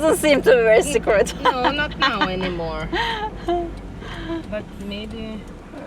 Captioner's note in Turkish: kahkaha